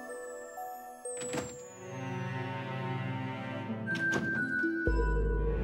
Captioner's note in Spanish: Ruido de la puerta